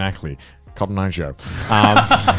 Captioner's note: laughing